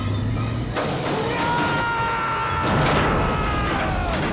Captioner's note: screaming